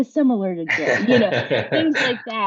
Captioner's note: laughs